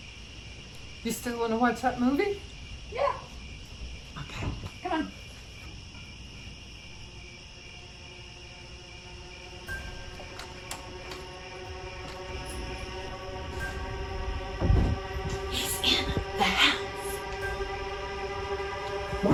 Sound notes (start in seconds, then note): 5.6 crickets; 9.2 eerie music rising; 15.4 eerie music